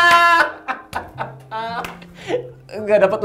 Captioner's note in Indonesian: ketawa